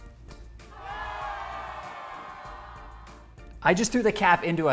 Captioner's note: audience cheering